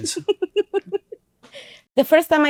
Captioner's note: laughing